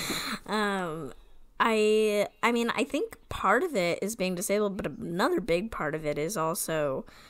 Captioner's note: laughs